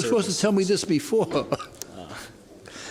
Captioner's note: laughs